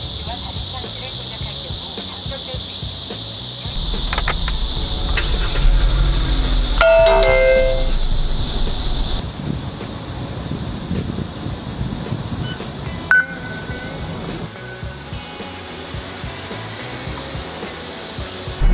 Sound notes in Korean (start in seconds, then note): 6.7 기계음